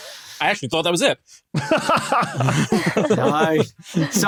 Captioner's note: group laughing